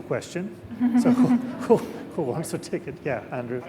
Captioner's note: laughing